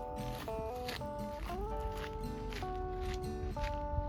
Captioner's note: footsteps